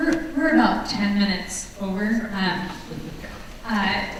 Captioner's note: voiceover